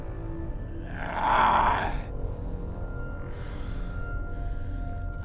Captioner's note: Brocheet growls